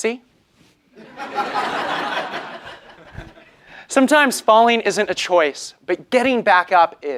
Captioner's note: laugh